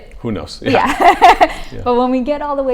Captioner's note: laughs